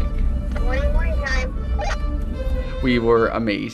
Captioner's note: on walkie-talkie